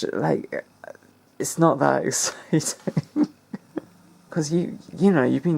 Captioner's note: laughs like a slithering cunt